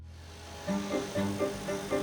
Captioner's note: vehicle humming; uplifting piano music